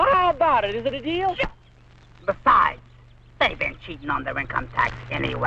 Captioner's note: Mango speaking in Spanish